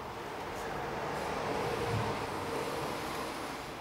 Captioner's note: distant road noises